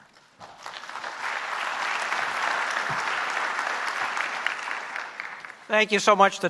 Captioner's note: applause